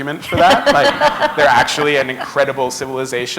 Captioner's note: laughter